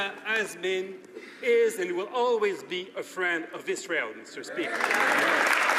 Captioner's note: some Applause